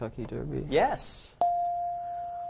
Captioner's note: correct answer chime